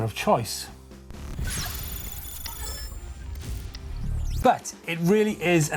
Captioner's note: digital beeps